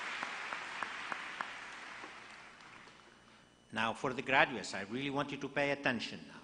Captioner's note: applause